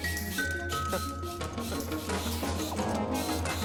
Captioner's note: chuckles